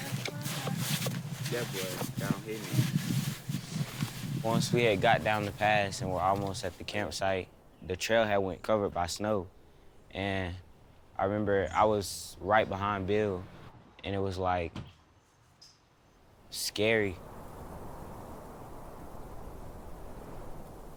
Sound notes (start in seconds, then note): 16.2 wind blowing